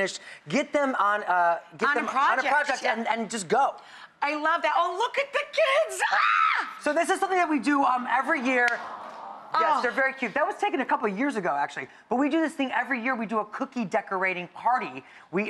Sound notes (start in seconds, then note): 5.8 screams joyfully; 8.4 audience awes